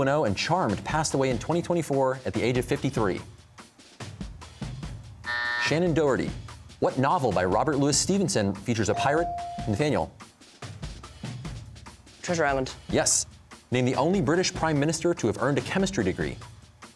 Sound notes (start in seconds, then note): 5.2 buzzer